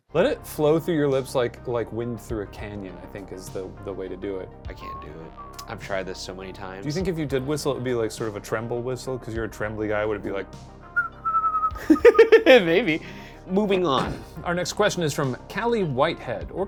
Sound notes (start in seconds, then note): 10.9 whistles; 11.8 laughs